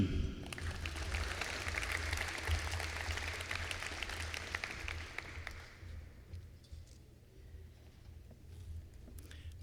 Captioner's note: applause